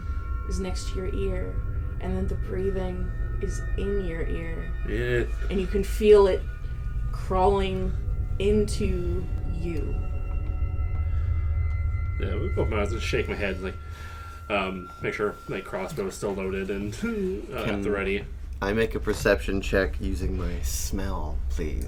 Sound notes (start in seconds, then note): 0.0 speaking low and slow for spooky effect; 4.6 shuddering